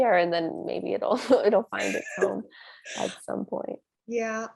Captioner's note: laugh